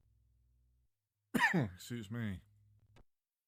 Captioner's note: cough